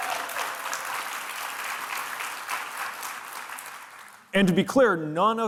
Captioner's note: audience applauding and cheering